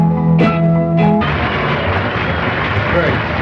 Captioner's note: applause